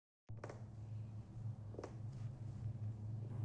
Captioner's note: fingers tap